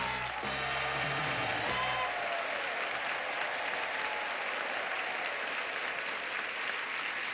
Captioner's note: audience applauding